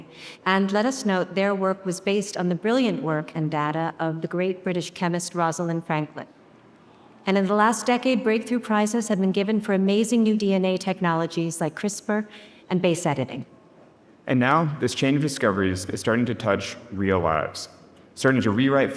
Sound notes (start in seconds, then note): none